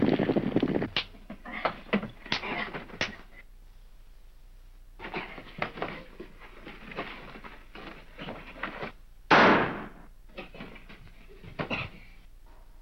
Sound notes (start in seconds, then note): 7.5 gunshot